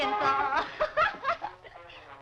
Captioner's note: laughing